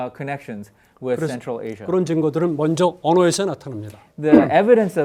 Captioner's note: speaking in Korean